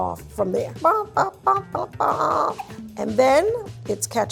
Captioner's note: humming to self